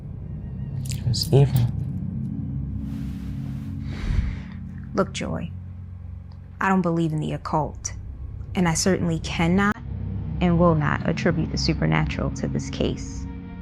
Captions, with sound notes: (tense music) It was evil. - (sighing) Look Joy, I don't believe in the occult, and I certainly cannot, and will not attribute the supernatural to this case.